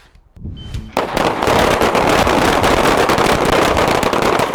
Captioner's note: guns firing